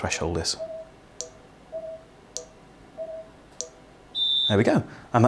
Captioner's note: shrill whistle; soft beeping